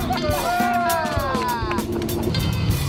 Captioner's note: cheering